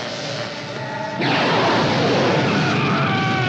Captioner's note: electrical sparking; flames whooshing; Sam screaming